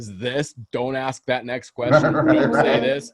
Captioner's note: laughs